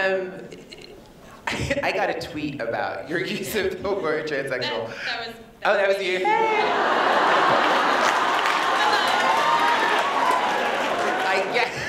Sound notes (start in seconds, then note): 6.6 laughter